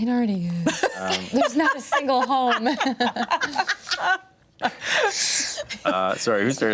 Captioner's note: everyone laughs